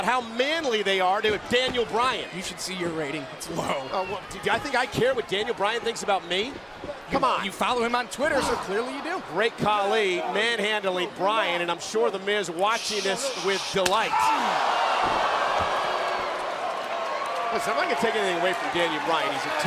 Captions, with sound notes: >> YEAH. LIFE ABOUT HOW MANLY THEY ARE TO >> HE MEASURES THINGS IN HIS DANIEL BRYAN. >> YOU SHOULD SEE YOUR RATING, IT'S LOW. >> OH, WELL, DO YOU THINK I CARE WHAT DANIEL BRYAN THINKS ABOUT ME? COME ON. >> YOU FOLLOW HIM ON TWITTER, SO CLEARLY YOU DO. >> GREAT KHALI MANHANDLING BRYAN, AND I'M SURE THE MIZ WATCHING THIS WITH DELIGHT. >> [CROWD CHEERING] >> LISTEN, I'M NOT GONNA TAKE